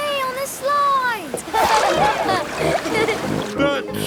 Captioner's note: laughing